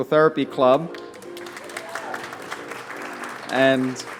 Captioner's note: applause